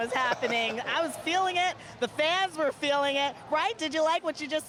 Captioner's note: laughter